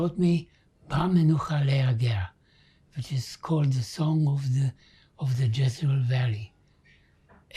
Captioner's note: hebrew